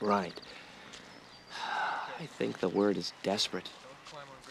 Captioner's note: sighs; indistinct chatter